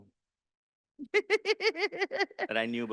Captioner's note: laughing